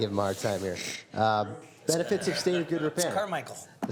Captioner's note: some Laughter